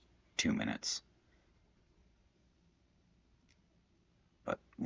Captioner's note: silence